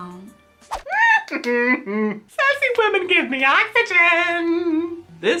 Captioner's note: laughs